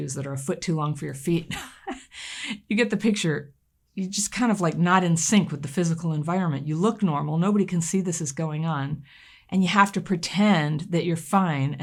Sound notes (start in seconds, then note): 1.5 laughs